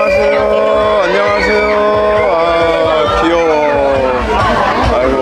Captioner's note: laughing